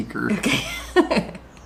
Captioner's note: laughs